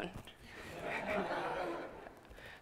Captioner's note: laughter